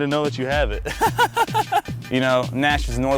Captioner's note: laughing